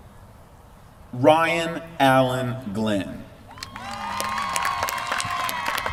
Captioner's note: applause